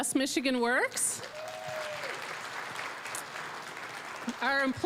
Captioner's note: applause